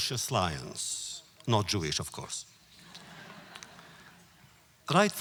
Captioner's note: audience laughter